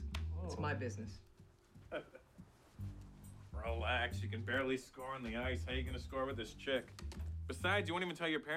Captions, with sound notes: lt's my business. (laughing) - Relax, you can barely score on the ice, how you gonna score with this chick? Besides, you won't even tell your parents